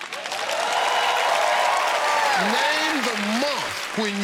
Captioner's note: cheers and applause